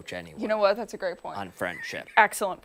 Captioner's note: laughter